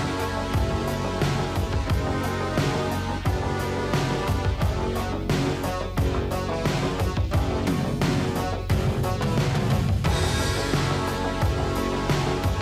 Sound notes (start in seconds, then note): none